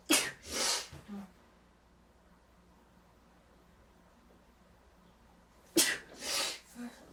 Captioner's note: sneezing hard